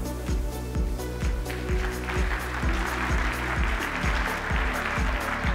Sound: applause

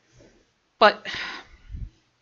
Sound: sigh

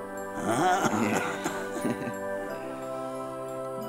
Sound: laughs

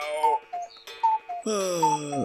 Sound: cuckoo Sound

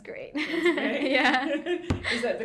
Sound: both laughing

